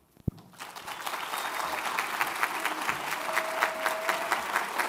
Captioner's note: audience applauds